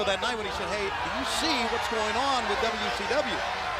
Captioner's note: crowd cheering